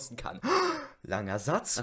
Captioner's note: violently inhales